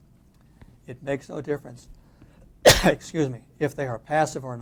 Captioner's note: coughs